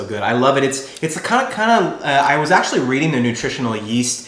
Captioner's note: mutters